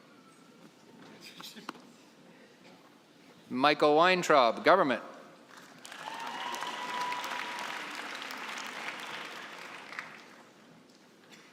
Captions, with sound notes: Michael Weintraub, government. (cheering and applause)